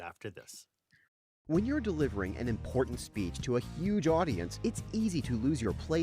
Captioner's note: voiceover